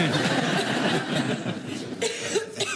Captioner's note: laughter